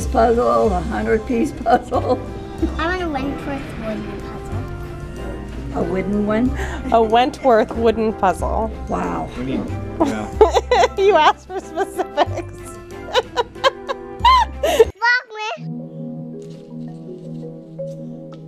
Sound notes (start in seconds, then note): 10.1 laughing; 15.8 soft music